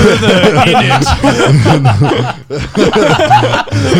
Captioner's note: laughing